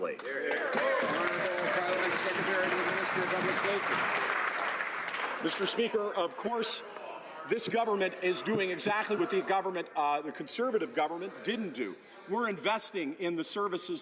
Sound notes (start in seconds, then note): 3.6 some Applause